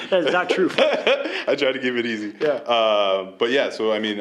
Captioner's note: laughing